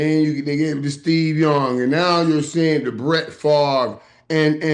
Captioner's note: none